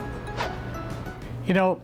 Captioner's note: swish